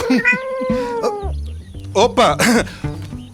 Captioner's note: meowing; Chico clears his throat